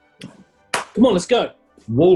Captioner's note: clap